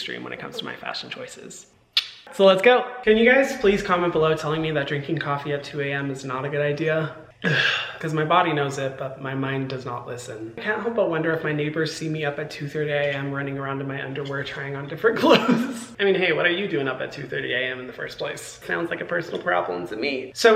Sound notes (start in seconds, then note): 7.4 Hyram sighing